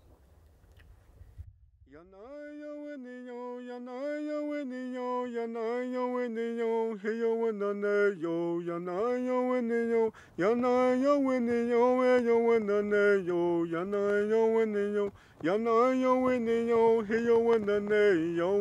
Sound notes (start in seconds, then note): 2.0 chanting